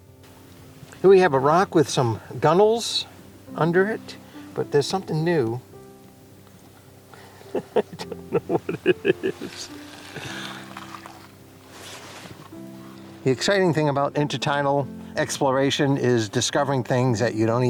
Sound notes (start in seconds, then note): 7.4 laughter